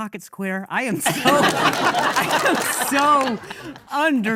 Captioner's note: audience laughing